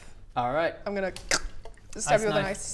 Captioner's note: krrck